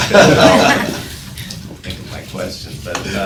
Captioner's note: laughing